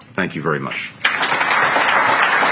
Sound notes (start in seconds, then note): 1.0 applause